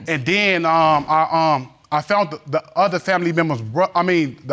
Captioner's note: stammering